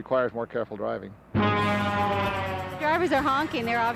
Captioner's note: big rig horn blares